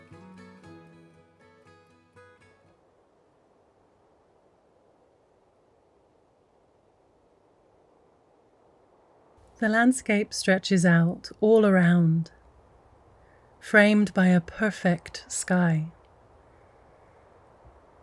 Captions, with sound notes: (wind blowing softly) The landscape stretches out all around framed by a perfect sky.